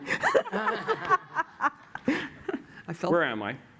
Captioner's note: laughter